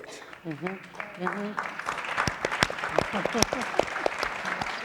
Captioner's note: audience applauding